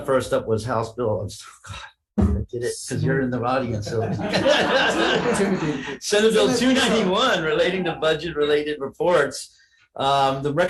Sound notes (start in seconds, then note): 3.9 all laugh